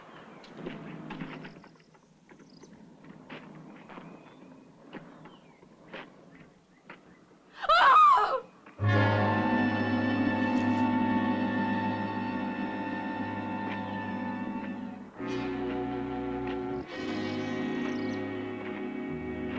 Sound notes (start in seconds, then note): 7.5 scream; 8.8 worrying music